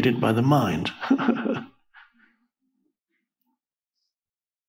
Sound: Eckhart chuckles

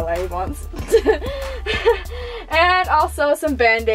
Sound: laughter

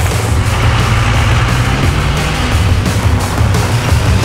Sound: engines roar

